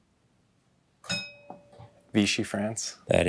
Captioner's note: bell dings